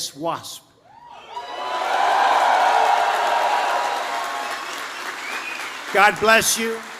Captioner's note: applause